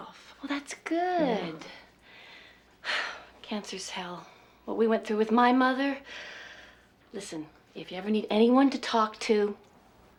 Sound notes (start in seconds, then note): 2.2 sighs